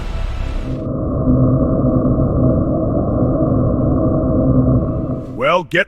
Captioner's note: traveling White Noise